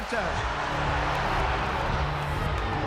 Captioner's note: crowd cheering